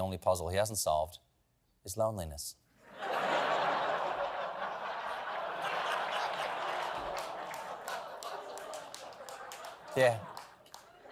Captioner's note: laughter